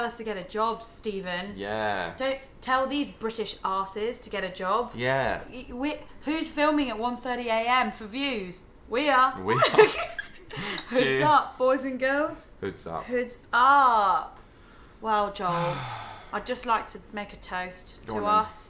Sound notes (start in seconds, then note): 10.3 laughing